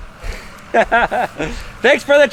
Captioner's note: laughs